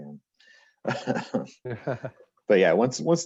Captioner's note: laughs